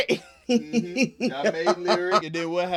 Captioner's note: laughing